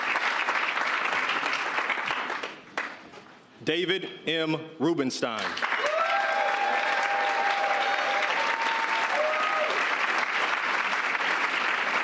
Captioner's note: applause